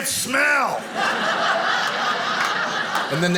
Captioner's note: audience laughing